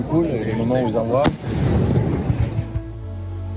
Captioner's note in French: Bruit d'explosion forte